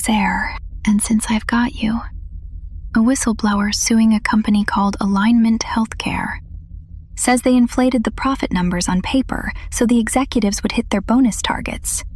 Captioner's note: whispers